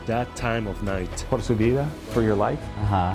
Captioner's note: speaks in Spanish